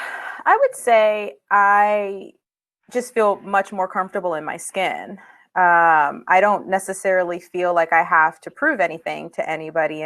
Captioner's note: broken audio